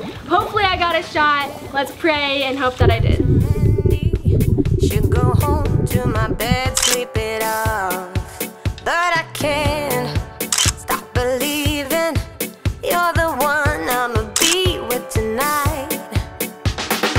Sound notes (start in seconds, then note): 2.8 upbeat music; 6.5 camera clicking; 9.4 upbeat music; 10.5 camera clicking; 12.9 upbeat music; 14.4 camera clicking; 17.0 upbeat music